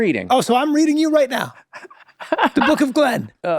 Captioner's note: laugh softly